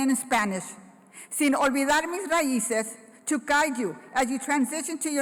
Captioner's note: foreign Language